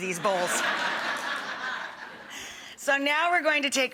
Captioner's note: audience laughing